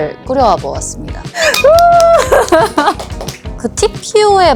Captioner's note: clap clap